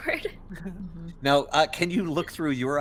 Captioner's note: Cally chuckles; laughs